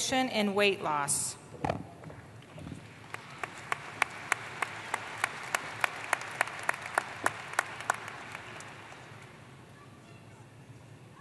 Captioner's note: applause